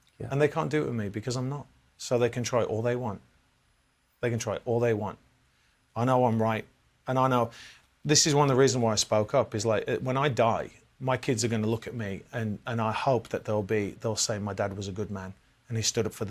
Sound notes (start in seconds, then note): none